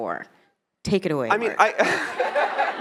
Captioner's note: attendees laughing; laughs